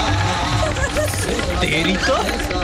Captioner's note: Crying